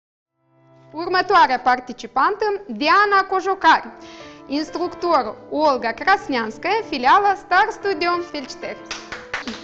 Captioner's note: woman speaking Romanian; clapping